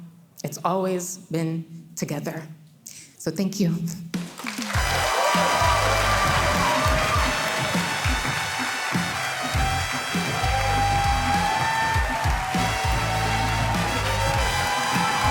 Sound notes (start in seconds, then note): 4.4 audience cheering; 4.7 cheerful music